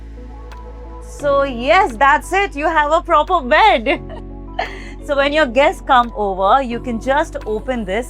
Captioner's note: chuckles